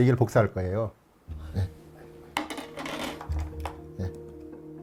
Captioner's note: tool sounds